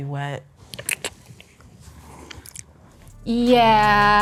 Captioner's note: lips smacking